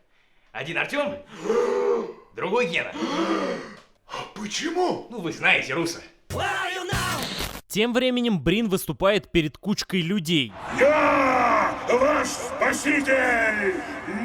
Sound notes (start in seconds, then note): 2.8 gasps; 2.9 surprised gasp